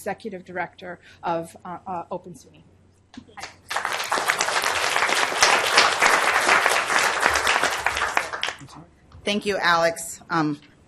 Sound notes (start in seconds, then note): 3.4 applause